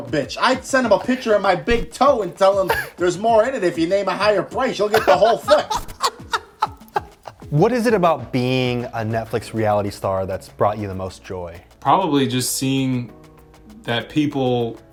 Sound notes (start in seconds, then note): 4.9 laughing